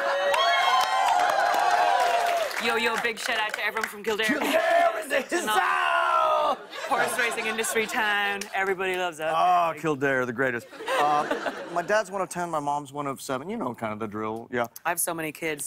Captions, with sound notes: [ Cheers and applause ] Yo, yo, big shout-out to everyone from Kildare -- -Kildare in the hizzouse! -Horse-racing industry town. Everybody loves it. -Ah, Kildare, the greatest. [ Laughter ] My dad's one of 10, my mom's one of 7. You know kind of the drill. Yeah. -I have so many kids,